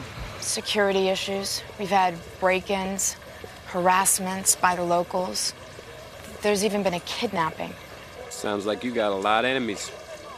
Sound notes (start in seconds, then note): none